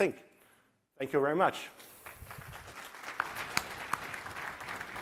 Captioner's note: applause